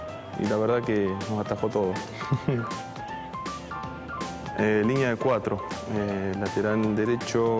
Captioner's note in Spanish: risas